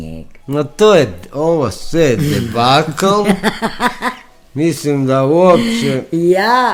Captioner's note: laughter